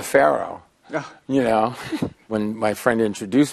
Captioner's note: chuckles